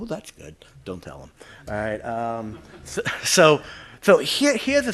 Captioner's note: audience laughter